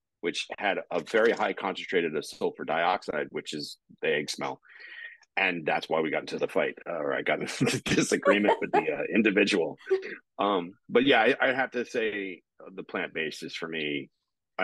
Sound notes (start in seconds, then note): 7.6 both chuckling